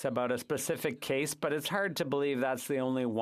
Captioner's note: speaking French